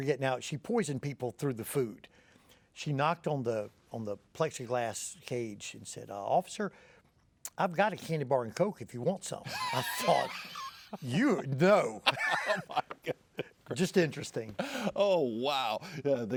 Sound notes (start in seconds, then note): 9.2 chuckles; 12.0 both laughing